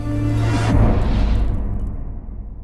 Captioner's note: impact